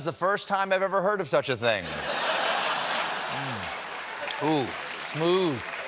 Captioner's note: laughter